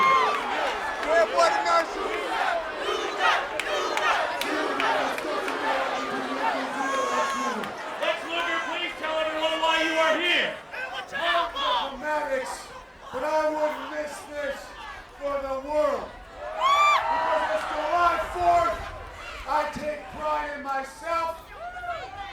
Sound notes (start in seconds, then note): 0.0 applause